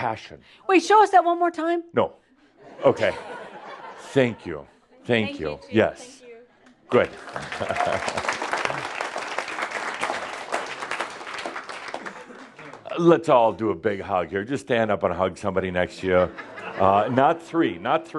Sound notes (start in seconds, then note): 2.6 laughter; 6.9 audience applause as they return to their seats